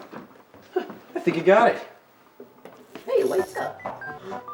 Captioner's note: chuckles